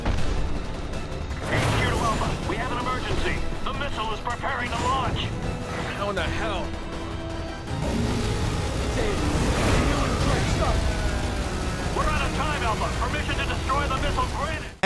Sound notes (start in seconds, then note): 0.1 footstep stomps; 1.5 man on Radio; 11.1 monster groans; 12.1 man on Radio